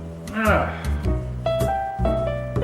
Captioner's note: sighs